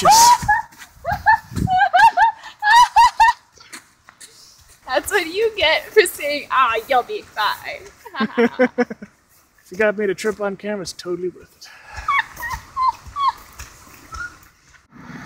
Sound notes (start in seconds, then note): 1.0 laughs; 8.0 laughs; 11.8 laughs